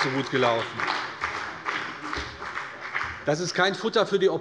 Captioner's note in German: Beifall bei der CDU und dem BÜNDNIS 90/DIE GRÜNEN